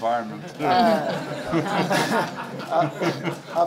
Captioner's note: laughs